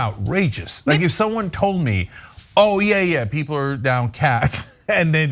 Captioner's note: laugh